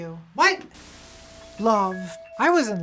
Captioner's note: Static